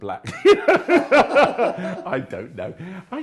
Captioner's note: laughing